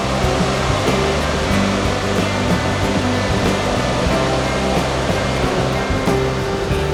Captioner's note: sound of the sea